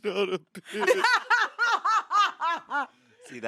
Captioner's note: everyone laughs